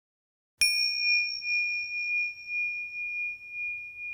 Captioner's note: bell chiming